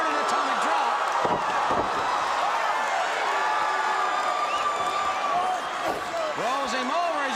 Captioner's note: crowd cheering